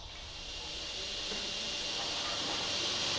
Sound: quiet machine noises

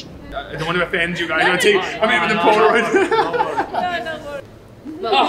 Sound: laughs

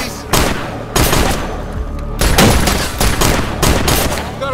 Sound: exchanging gunfire

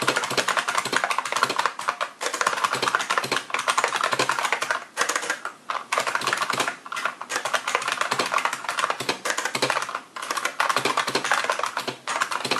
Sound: yet more typing

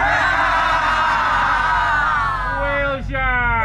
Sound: group faking laughter

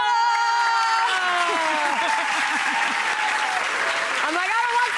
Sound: audience claps

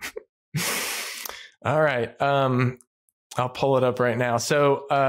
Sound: laughs

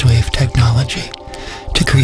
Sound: asrmr breath

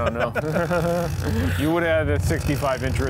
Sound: guys laugh

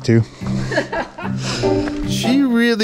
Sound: laughs

